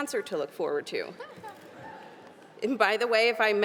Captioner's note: audience laughing